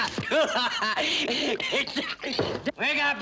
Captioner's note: laughs